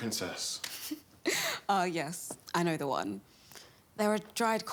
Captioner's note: laughs